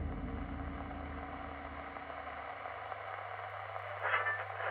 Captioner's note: radio scratching